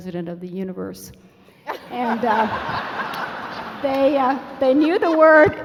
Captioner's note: laughing